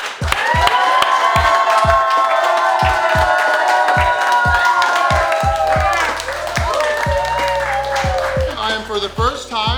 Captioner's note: cheering & Clapping